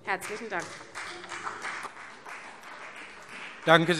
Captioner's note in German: Vereinzelter Beifall CDU und BÜNDNIS 90/DIE GRÜNEN